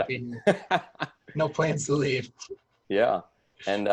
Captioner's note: laughs